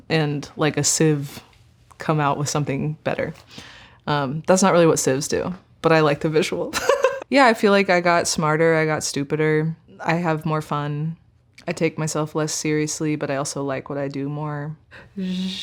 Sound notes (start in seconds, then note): 6.8 chuckling